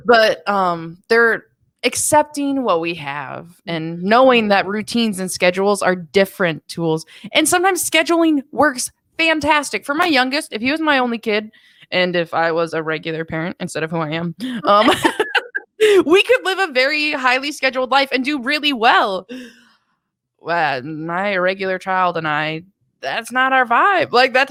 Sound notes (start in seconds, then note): 14.6 laughs